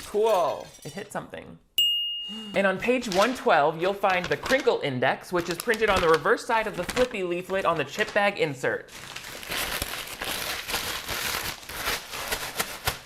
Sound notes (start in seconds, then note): 9.1 paper rustling